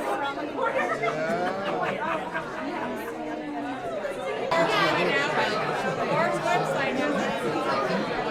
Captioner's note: crowd noise